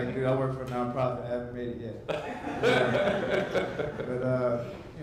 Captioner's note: audience laughs